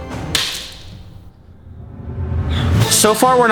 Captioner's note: waffle splatters